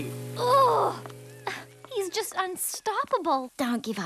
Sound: growling

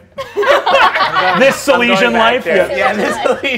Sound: players laughing

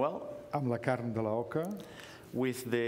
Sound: speaking catalan

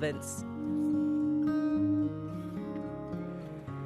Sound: fog horn sounds

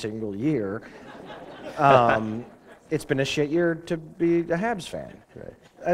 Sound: laughter

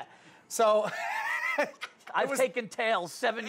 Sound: laughing

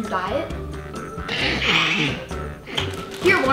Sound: giggles

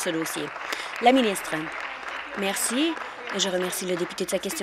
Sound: applause

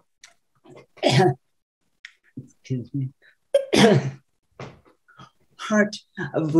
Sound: coughs

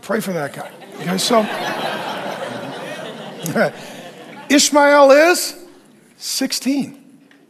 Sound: congregation laughs

